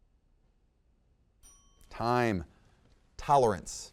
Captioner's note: timer chimes